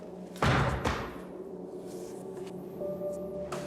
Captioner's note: book thuds